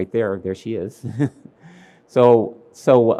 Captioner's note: laughs